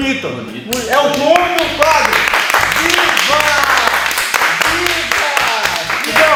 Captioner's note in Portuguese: Salva de Palmas